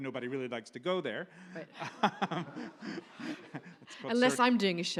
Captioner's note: audience laughs